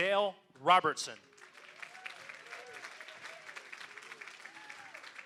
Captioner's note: applause